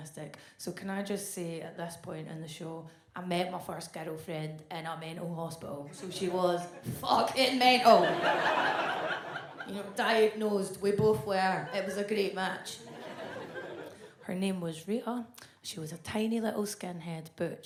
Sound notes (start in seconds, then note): 7.7 audience laughs